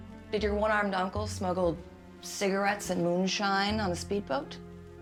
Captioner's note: none